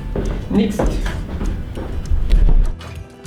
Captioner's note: new Zealand accent